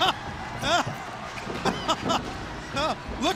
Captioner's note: crowd cheering